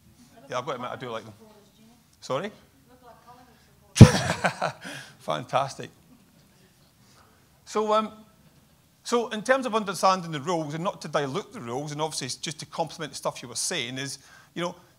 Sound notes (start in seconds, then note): 4.0 laughs